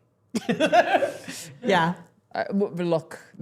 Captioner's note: chuckles